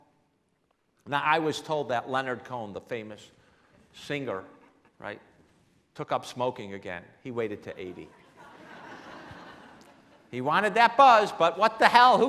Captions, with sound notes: I was told that Leonard Cohen, the famous singer, right, took up smoking again. He waited till 80. (laughing) He wanted that buzz, but what the hell,